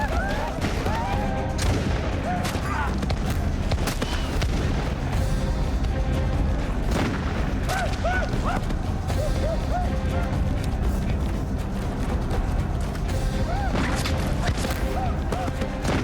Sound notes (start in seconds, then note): 1.5 gunshots